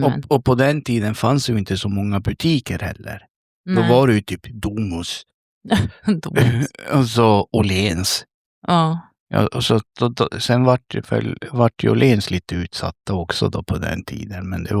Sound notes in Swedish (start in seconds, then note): 5.7 skratt